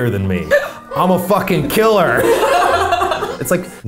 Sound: women laughing

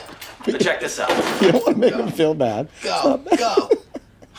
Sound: laughs

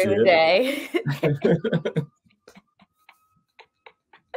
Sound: they laugh

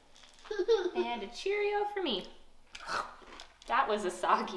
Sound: exaggerates eating

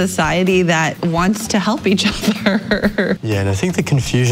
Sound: laughs

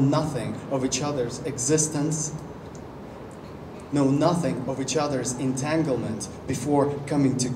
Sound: none

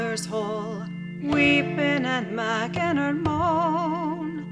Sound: ghostly moan

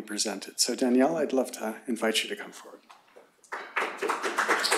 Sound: applause

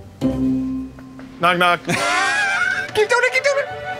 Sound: laughter

